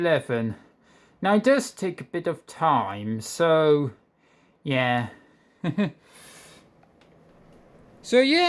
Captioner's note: chuckles